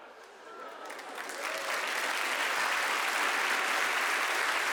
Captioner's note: audience applauding